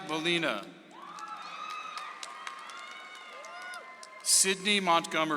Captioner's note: audience applauds